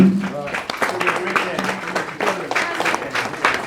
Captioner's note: applause